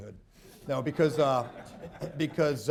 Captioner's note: laughter